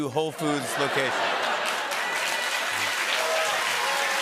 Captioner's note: cheers and applause